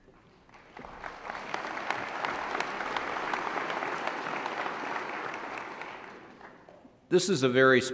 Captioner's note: applause